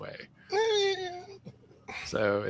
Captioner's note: squealing